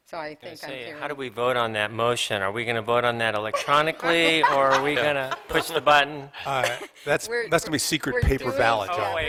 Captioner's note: laughter